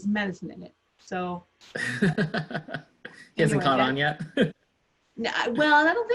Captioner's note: laughs